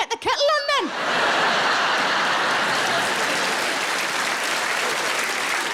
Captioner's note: audience laughs and applauds